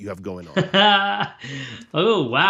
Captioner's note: laughs